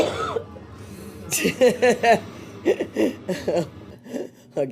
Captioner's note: coughs; laughs